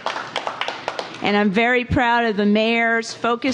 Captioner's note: applause